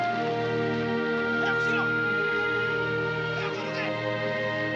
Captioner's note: shouting in Japanese